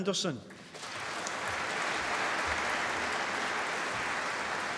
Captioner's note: applause